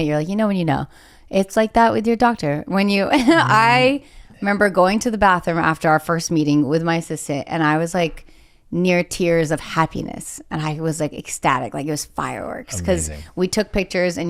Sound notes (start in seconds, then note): 3.2 chuckles